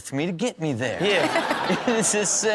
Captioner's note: Chanel and audience laughing